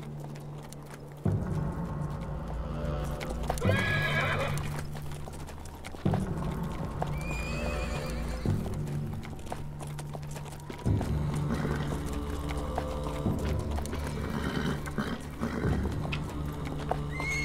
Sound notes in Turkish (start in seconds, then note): 3.6 At kişniyor; 7.1 At kişniyor; 10.1 Gerilim müziği; 14.7 At kişniyor